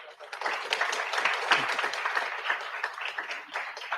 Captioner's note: audience clapping